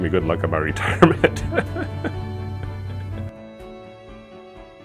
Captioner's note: laughs